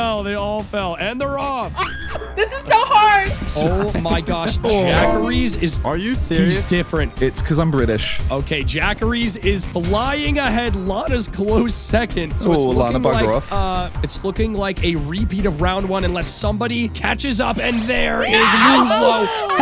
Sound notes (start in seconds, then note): 1.7 screams